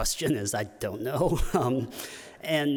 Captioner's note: chuckles